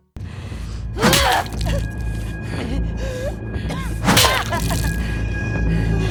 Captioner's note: blows landing